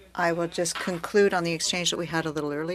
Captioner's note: speaking French